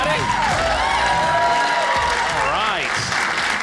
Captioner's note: audience cheering